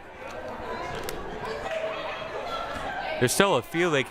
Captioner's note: crowd murmuring